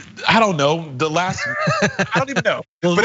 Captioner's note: laugh